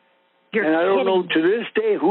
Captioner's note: over the Phone